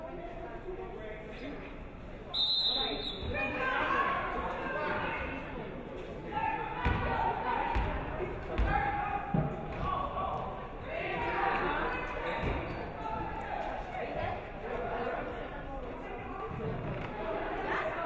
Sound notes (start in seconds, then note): 2.3 referee whistles